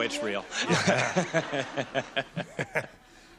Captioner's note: laughter